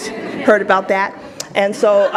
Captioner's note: audience laughs